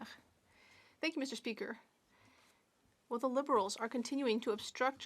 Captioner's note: speaking French